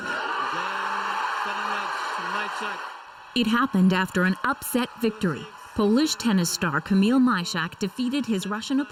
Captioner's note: cheers and Applause